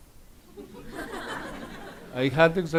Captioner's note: audience laughs